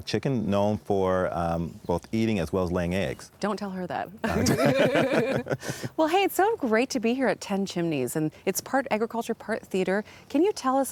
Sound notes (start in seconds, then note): 4.2 both laugh